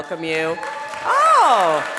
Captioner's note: audience cheering